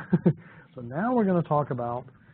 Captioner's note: laughs